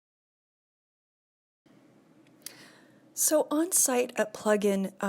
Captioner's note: pause